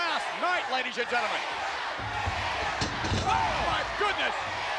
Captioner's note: spectators cheering